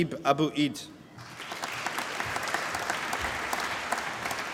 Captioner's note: applause